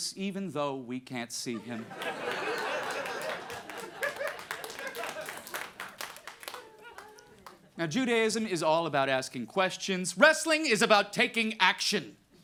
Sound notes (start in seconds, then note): 1.8 audience laughing and clapping